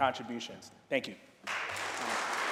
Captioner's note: applause